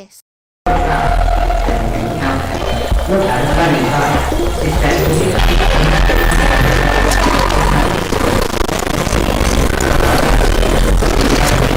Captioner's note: glitchy sounds - similar to the 'breakdown sequence' from CYY